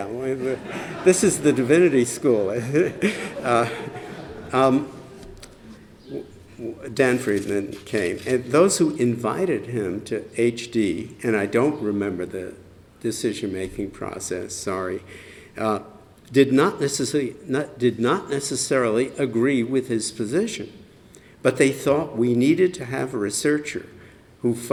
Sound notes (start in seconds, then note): 2.5 laughter